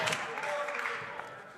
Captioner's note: applause